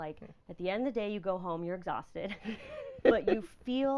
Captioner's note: laughing